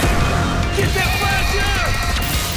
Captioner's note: yelling